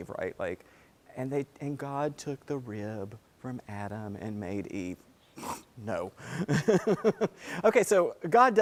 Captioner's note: laugh